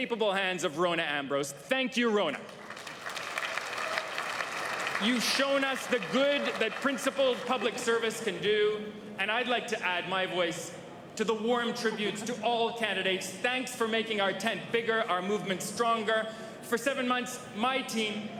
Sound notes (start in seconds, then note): 9.0 applause